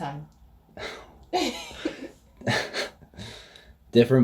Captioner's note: laughs